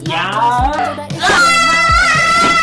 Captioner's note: thud!